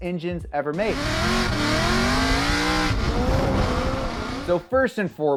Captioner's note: car engine roaring